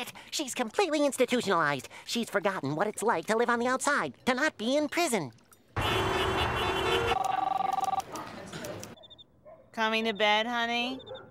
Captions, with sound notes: She's completely institutionalized. She's forgotten what it's like to live on the outside, to not be in prison! [horns beeping] [phone ringing] Coming to bed, honey?